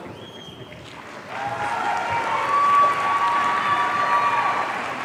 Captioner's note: audience cheering